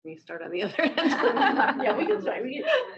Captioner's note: laughter